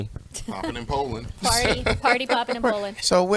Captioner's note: laughs